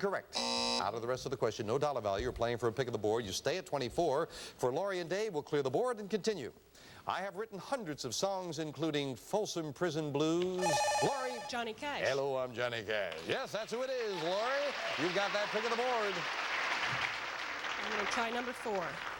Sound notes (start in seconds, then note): 0.3 buzzer; 10.6 buzzer